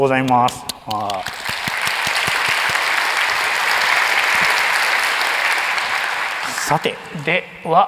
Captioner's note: applause